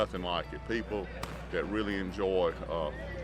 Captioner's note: gun bangs